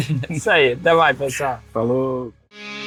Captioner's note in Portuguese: riso